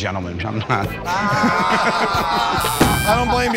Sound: all groan; buzzer

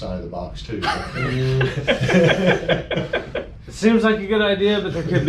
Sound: people laughing

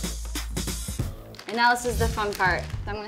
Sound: applause

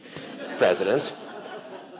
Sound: laughter

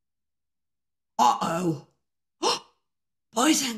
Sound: gasp

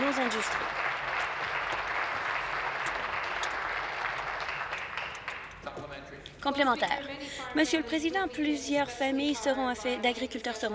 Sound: applause

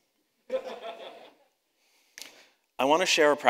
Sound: audience laughs

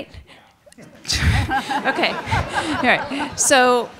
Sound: audience laughing

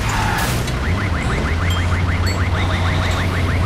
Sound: alarm

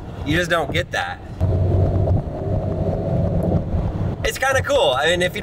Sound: car rumbling

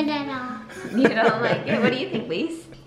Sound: laughs

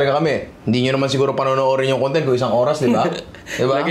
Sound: chuckles

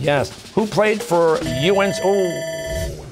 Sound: bell ringing

